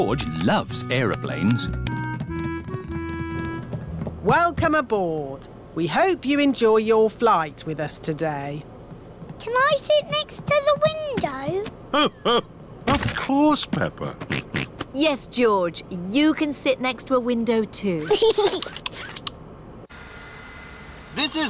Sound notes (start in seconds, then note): 14.8 snorts; 18.0 giggles